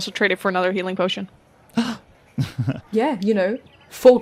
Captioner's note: gasps and chuckles